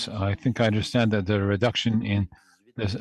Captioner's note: speaking French